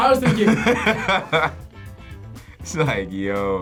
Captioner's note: both laugh